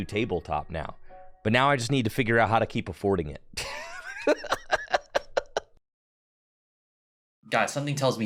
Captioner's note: laughs in Mahone; awkward pause